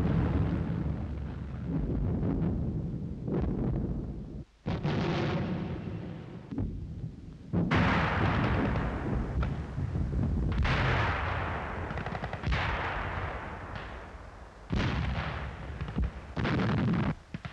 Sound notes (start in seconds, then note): 5.0 bombs exploding; 7.4 guns firing and bombs exploding